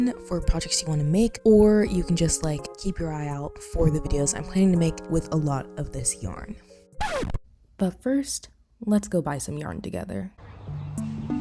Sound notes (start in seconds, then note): 7.0 record scratch sound effect